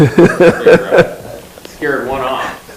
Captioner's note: all laugh